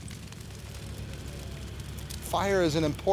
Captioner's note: fire rustling